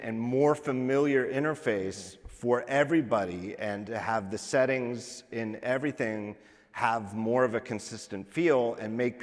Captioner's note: none